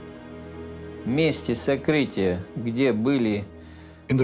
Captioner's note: speaking russian